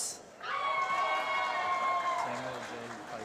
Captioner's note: applause